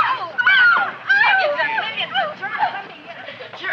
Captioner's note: girls chattering